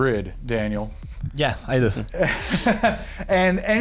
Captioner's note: laughs